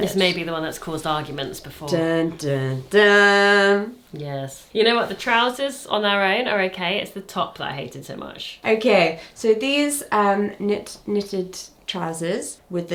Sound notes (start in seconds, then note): 2.1 humming